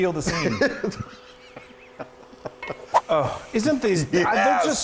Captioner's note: laughing